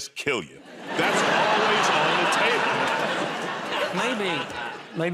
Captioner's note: laughter